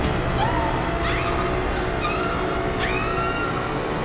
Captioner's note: screaming